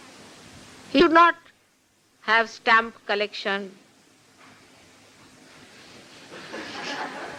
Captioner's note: laughter